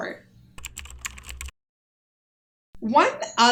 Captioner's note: keyboard clicking